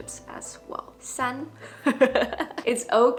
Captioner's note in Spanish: risas